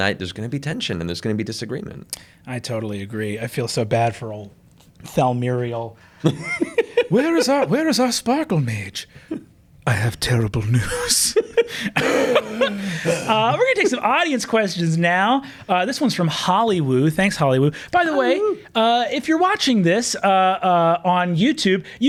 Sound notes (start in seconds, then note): 6.2 laughs; 10.8 laughs; 11.7 wheezes